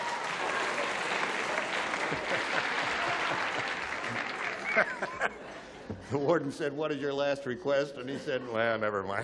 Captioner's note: applause